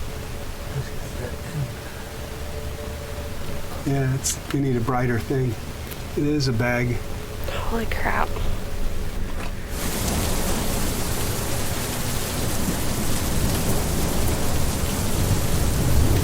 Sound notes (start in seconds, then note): 0.0 dark music; 9.9 rain splashes; 12.5 muffled thunder rumbles